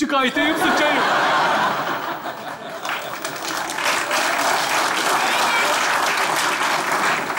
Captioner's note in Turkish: Kahkaha ve alkış sesleri